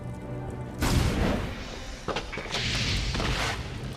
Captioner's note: ominous tempo music; fire whooshing